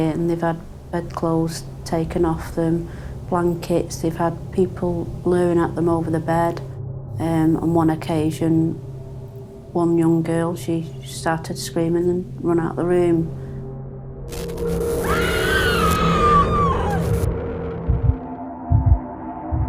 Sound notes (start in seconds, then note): 14.9 screaming